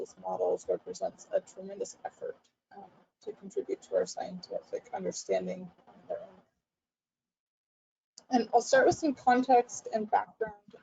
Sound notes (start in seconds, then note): 3.2 audio is choppy